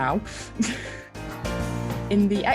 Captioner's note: chuckling